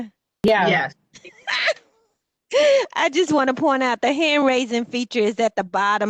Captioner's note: laughter